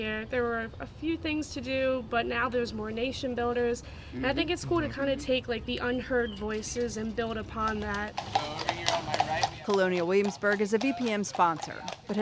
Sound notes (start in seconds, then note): 8.3 horses clacking